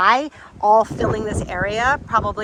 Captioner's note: none